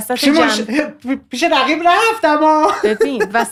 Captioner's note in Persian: خنده